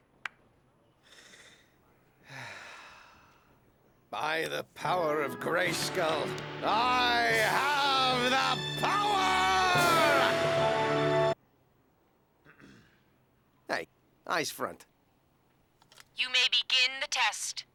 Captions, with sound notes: (sighs) By the power of Grayskull, I have the power! Hey, eyes front. You may begin the test.